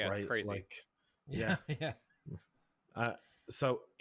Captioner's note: laughs